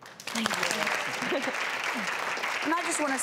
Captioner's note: audience applause